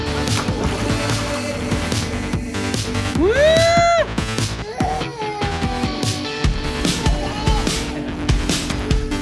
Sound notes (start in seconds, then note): 0.4 water splashes; 3.1 cheers; 4.6 kid cries in the background